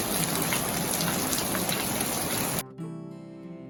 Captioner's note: sounds of rain gets louder